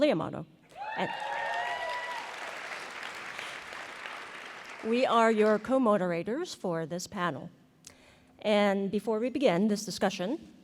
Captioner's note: applause